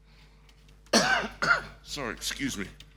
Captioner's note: coughing